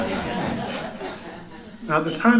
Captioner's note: laughter